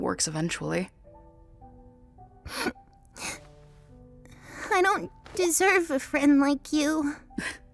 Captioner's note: sniffles